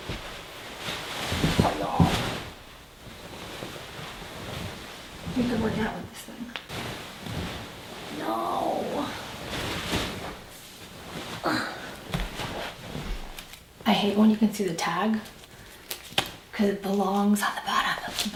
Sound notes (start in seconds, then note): 0.0 blanket ruffling; 11.6 grunts